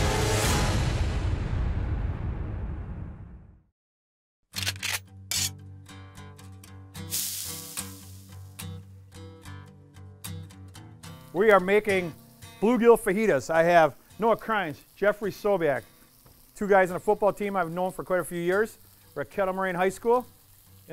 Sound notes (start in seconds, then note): 4.3 sizzle; 4.5 gun cocks